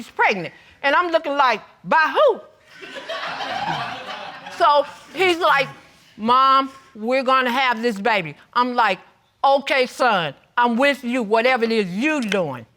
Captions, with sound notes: And I'm looking like, "By who?" (AUDIENCE LAUGHING) So he's like, "Mom, we're gonna have this baby." I'm like, "Okay, son. "I'm with you, whatever it is you're doing."